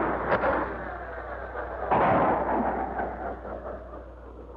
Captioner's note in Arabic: صوت الآلة; تئن الآلة